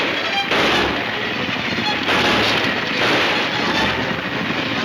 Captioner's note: gunshots banging